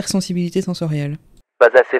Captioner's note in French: Voix off